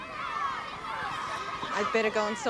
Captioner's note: children shouting